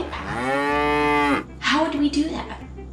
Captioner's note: cow mooing